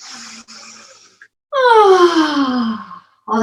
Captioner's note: deep breathing